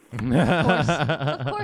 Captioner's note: laughing